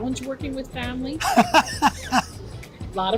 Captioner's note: laughs